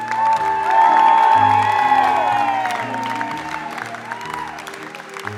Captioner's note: applause; cheering